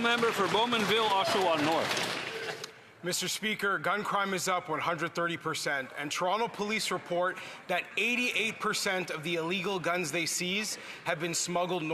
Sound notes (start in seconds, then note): 3.5 some Applause